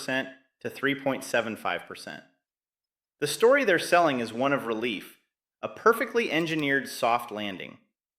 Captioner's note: sarcastic